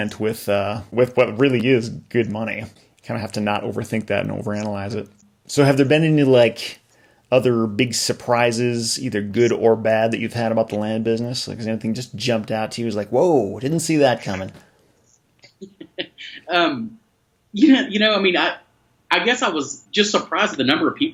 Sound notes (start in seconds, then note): 15.5 laughter